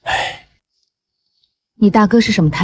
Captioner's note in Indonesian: menghela napas